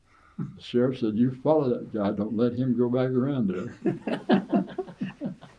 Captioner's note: laughter